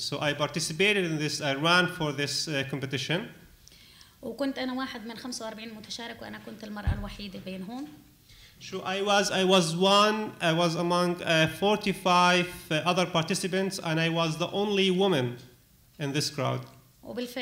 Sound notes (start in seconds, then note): 4.2 speaking arabic; 17.1 speaking arabic